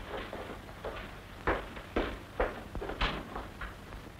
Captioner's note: footsteps